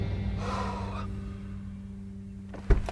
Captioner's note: exhales